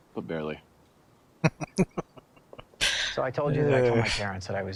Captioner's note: laughing